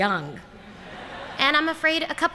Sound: laughter

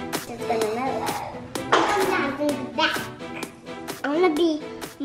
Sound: children talking

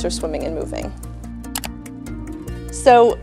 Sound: slide clicks

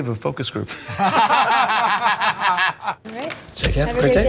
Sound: laughter

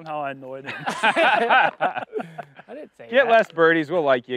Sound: laughter

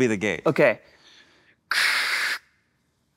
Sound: huffs

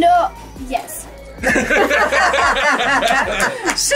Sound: laughing

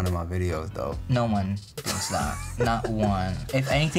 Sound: laughs

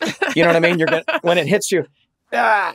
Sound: laughs

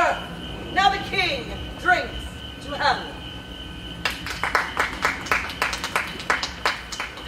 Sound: applause

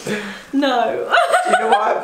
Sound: laughs

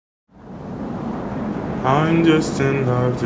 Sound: whooshing

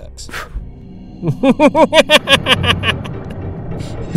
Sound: maniacal laughter

